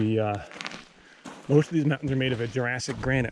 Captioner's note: footsteps thumping